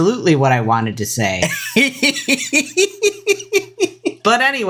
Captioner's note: giggles